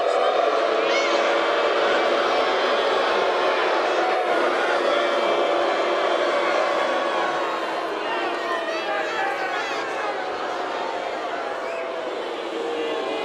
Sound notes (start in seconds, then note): 0.0 crowd boos